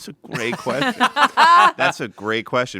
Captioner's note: everyone laughs